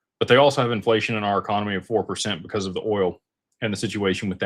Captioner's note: none